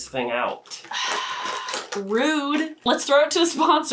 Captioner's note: sighs